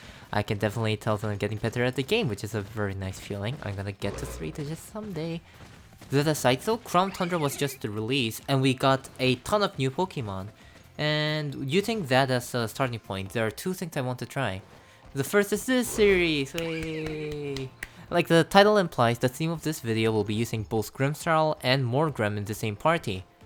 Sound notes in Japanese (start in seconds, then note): 16.5 パチパチパチ